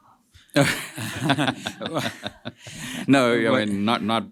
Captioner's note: laughter